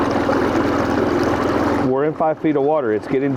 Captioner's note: river babbling; engine idling